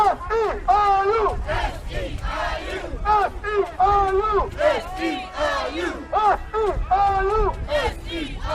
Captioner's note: chanting